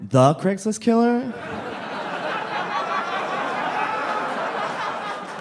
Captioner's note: audience laughing